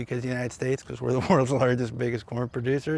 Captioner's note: chuckles